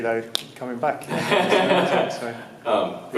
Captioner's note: laughs